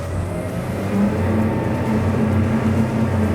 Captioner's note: revving